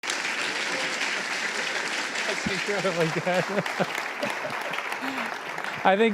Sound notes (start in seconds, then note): 0.0 applause